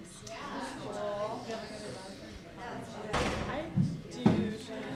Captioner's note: excited conversations